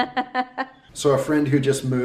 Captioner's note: chuckling